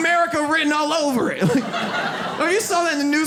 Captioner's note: audience laughs